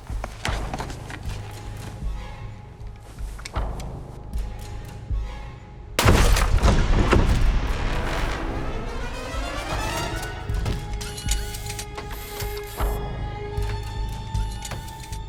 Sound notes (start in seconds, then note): 6.0 door bangs; 10.0 robot whirring mechanically